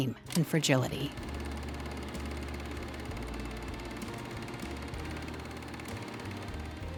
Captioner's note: film reel whirs